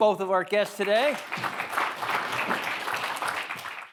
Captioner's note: all clapping